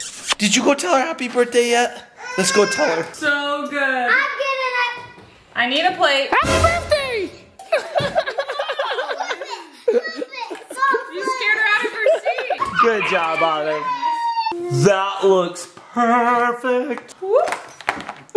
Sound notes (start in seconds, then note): 6.4 dramatic sound effect; 7.8 dad laughs